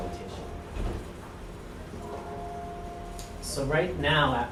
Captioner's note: bell Ringing